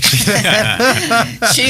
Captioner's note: laughing